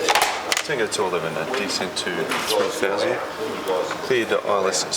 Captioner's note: background chatter